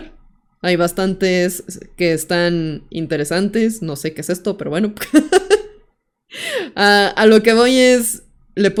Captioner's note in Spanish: risas